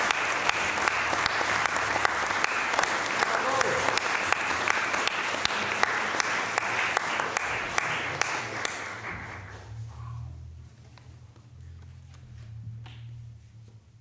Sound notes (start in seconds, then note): 0.1 applause; 4.7 applause